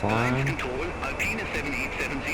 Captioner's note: radio chatter